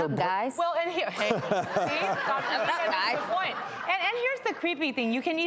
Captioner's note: laughter